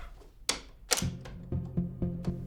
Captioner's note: shutting door, lock